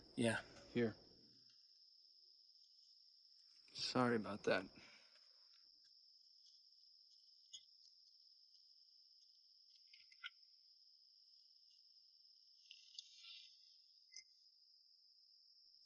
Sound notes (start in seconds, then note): none